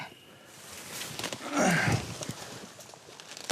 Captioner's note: grunts